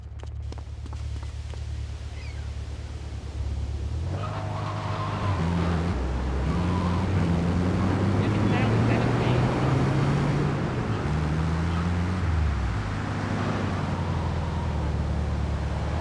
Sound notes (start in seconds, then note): 0.0 car engine roaring; 8.0 car engine roaring